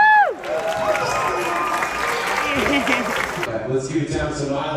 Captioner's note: audience applause